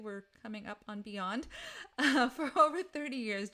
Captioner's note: laughs